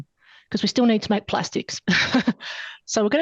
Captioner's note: laughs